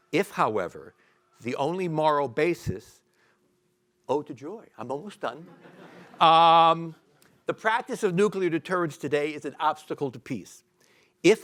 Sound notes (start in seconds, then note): 5.4 audience laughing